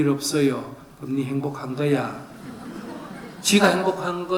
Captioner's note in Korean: 청중 웃음